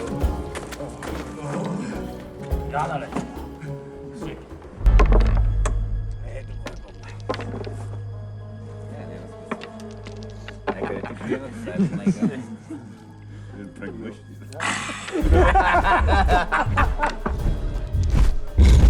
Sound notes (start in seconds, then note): 6.0 indistinct chatter; 11.1 laughter; 14.8 suspenseful music playing; 18.5 cyclops growling